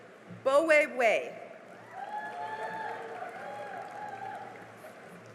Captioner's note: cheering and applause